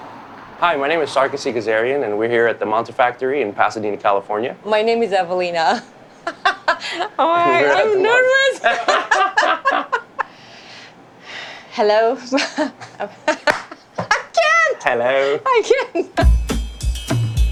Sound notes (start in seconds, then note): 6.2 laughs; 9.2 laughing; 10.5 sighs; 12.0 laughs; 15.5 laughing